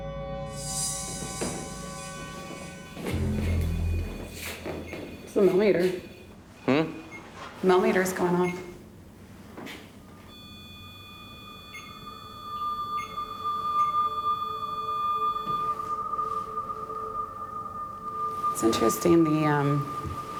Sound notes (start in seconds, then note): 0.6 beeping; 10.3 beeping; 12.0 ominous music